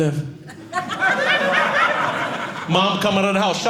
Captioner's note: audience laughing